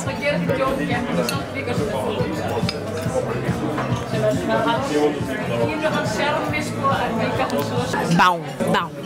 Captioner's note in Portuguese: ambiência de restaurante